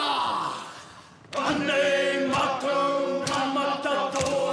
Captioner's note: all chant haka